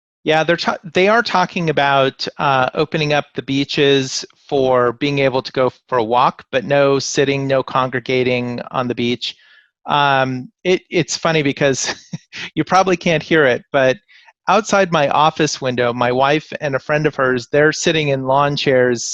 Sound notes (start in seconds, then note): 11.8 laughs